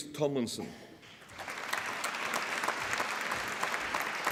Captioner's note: applause